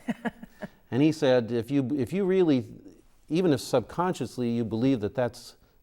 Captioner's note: chuckles